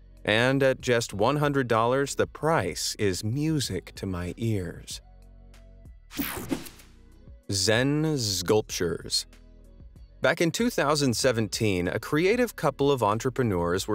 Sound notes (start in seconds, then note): 6.2 air whooshing; 9.4 upbeat music